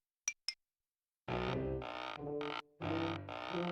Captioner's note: wagon creaking